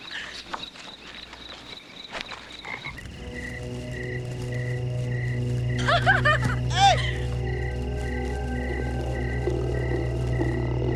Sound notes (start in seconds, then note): 2.7 dark ambient music; 5.8 girl giggling